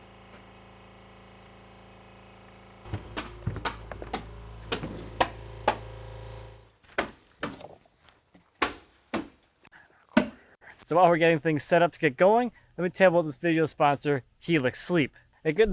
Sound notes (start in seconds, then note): 2.9 stapler thudding